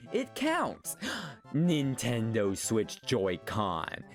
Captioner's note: gasp